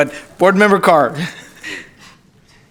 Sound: laughter

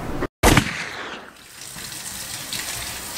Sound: gun firing

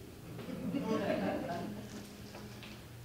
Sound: audience Laughter

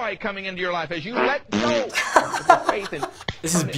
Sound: farting; laughs

